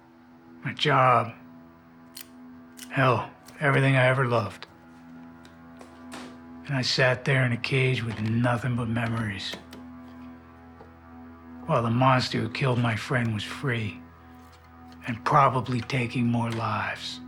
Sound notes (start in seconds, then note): 0.0 intense music begins; 2.1 knife clicks open and shut